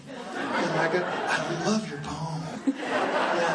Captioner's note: laughing